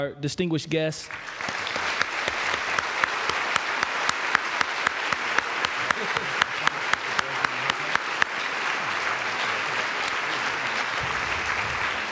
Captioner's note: applause